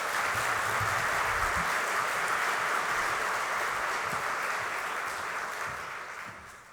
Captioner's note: applause